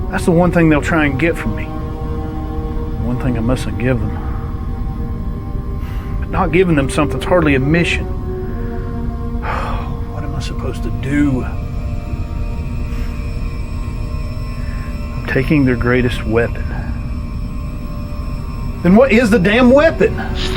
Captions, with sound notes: That's the one thing they'll try and get from me. The one thing I mustn't have given them. But not giving them something's hardly a mission. (sighs) What am I supposed to do? I'm taking their greatest weapon. Then what is the damn weapon?